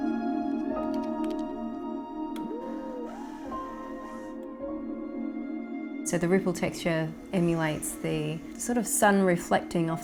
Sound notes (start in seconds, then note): 2.6 driller buzzing